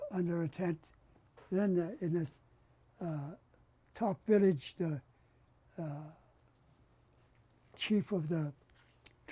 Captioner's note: pauses for 3 seconds